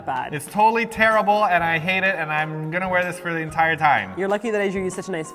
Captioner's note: whines